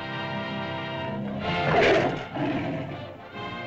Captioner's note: lizard bellows; suspenseful music